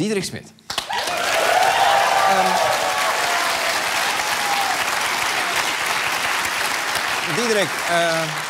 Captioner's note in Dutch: applaus en gejuich